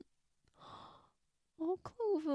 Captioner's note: gasp